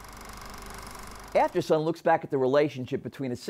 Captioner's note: film reeling